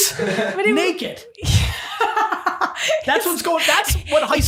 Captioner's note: laughing